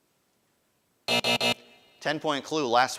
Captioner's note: buzzer buzzing